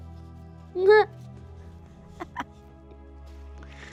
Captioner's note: laughing